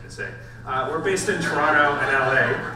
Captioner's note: audience laughs